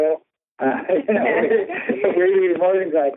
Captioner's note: laughter